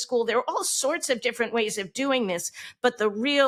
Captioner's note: none